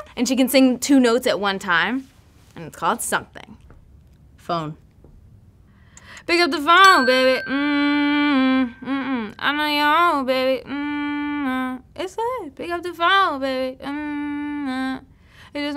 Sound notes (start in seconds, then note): 6.8 ding